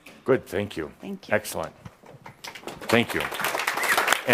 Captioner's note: applause